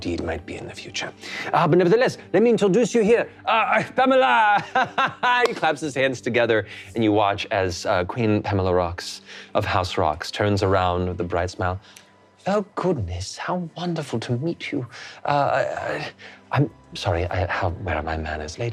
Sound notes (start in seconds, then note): 4.5 laughing and clapping